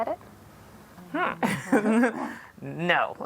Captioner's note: laughs